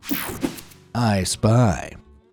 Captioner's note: air whooshing